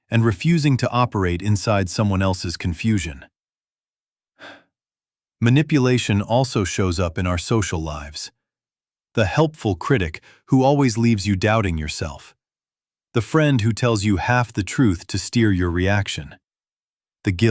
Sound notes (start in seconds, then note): 4.4 sighs